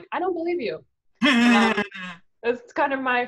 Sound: laughs

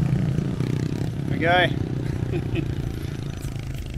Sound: laughing

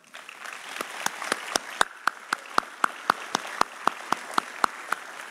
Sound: audience applauding

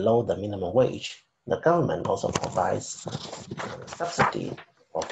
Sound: speaking faintly

